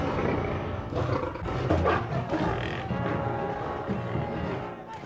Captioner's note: lions growling; whip cracking